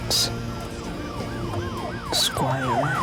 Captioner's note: sirens wailing